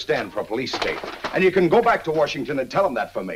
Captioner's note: none